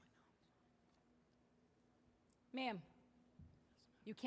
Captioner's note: performers whispering